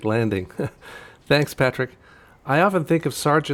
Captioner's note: laughs